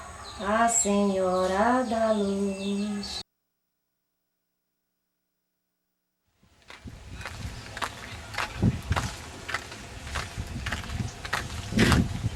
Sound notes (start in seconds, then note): 7.0 foot steps